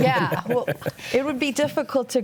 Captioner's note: laughs